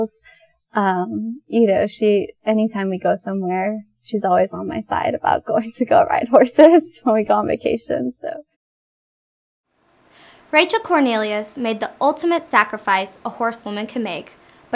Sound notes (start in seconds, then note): none